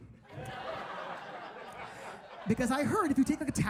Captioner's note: audience laughs